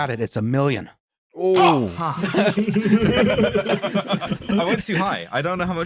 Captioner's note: variety of reactions, and laughter